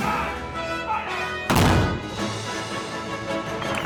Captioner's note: cannon fires